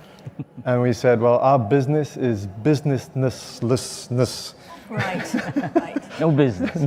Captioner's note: laughing